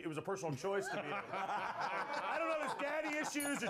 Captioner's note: laughter